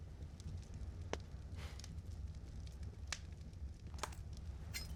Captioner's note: sighs